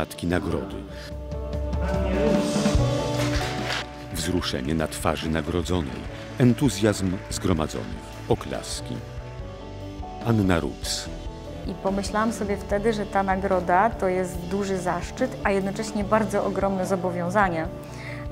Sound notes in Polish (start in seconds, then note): 0.0 jednostajna rytmiczna muzyka; 3.0 oklaski